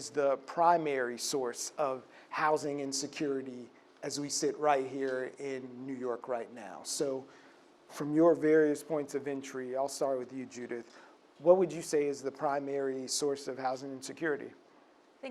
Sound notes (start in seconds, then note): none